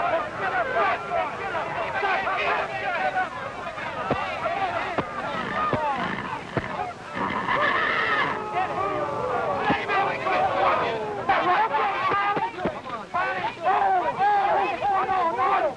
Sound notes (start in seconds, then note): 3.2 crowd shouting